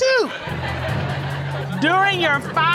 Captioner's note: audience laughing